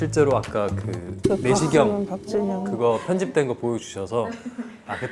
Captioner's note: preview footage confirmation sound effect